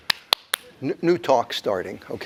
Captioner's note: clapping